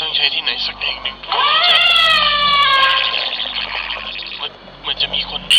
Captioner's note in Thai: เสียงสิ่งมีชีวิตต่างดาวแปลกๆ